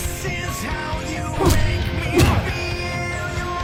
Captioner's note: ringing punches